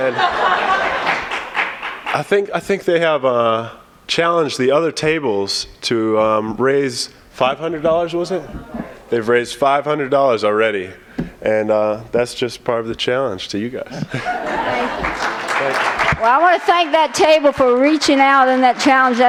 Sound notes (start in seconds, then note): 14.4 applause